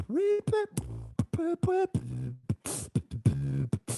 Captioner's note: beatboxing